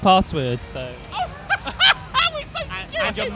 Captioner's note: laughing